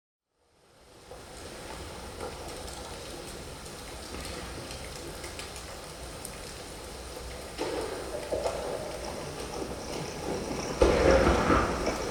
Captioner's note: falling water and loud crashing